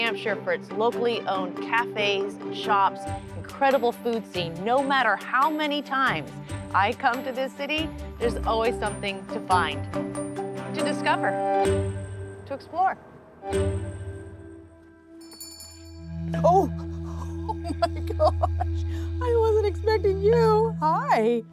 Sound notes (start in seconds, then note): 15.1 bell jingles; 16.6 laughing